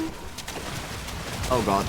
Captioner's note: angry splashing